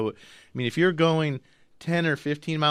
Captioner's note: none